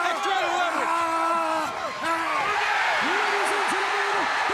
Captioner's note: crowd cheering